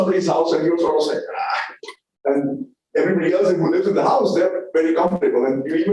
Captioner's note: sound of disgust